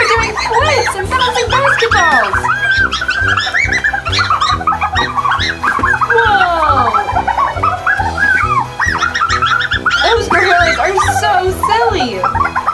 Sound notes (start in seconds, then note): 2.9 gorillas screeching